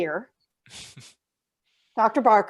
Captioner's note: person chuckles